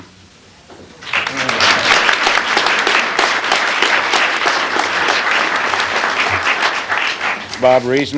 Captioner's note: applause